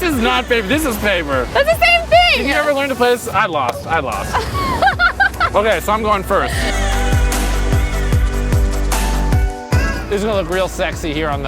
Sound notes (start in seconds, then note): 4.3 giggles; 6.8 trendy music